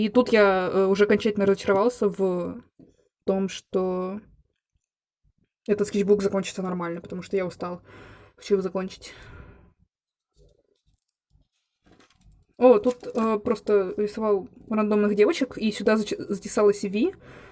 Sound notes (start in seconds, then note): none